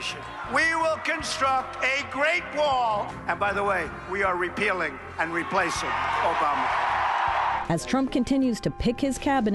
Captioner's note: cheers